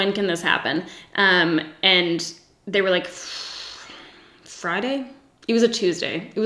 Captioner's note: sighs